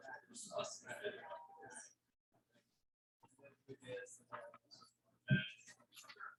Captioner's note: people chattering indistinctly